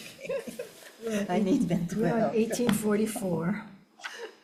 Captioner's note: laughs